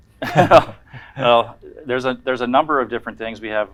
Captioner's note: chuckling